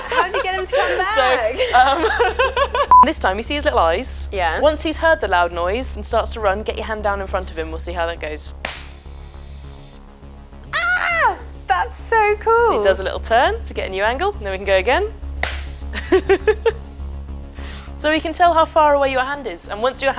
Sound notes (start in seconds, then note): 0.0 laughing; 8.6 clap; 15.4 clap; 15.9 laughing